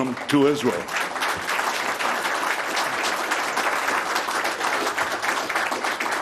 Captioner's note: applause